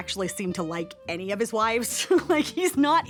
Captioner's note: chuckles